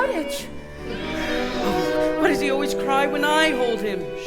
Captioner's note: baby cries